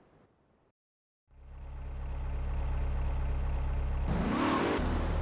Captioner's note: engine revving